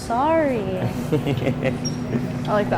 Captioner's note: student laughs